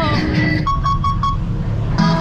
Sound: battery beep

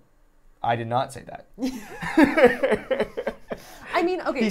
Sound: laughing

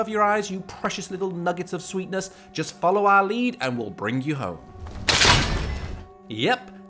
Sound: snap with bear trap

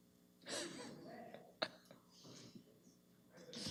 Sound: laughing

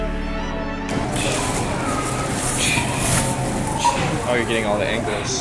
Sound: upbeat inspirational music; deep breathing

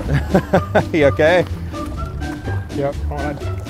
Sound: chuckling

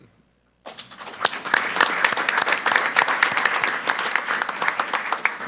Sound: group applauding

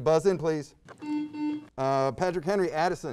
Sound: buzzer beeps

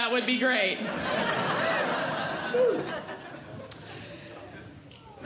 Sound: audience Laughing

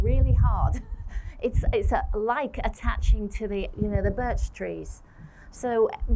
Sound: laughter

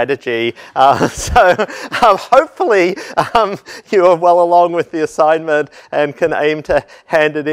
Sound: laugh

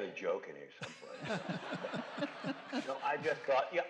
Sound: laughter

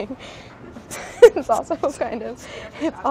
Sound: laughing

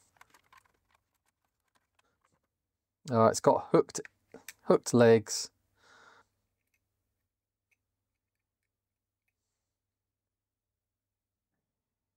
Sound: keyboard Clacking

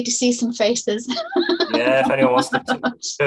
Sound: laughs

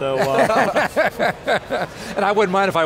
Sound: laughs

